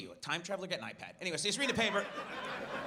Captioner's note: audience laughs